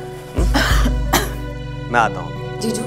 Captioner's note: Asmi coughs